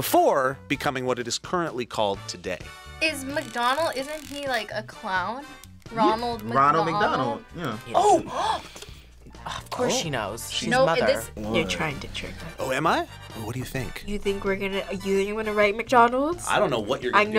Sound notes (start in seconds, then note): 7.6 gasps